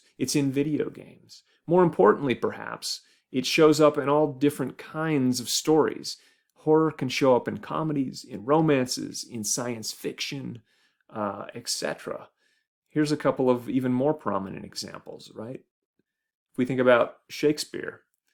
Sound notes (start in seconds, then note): none